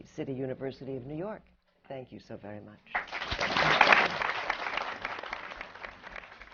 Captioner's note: applause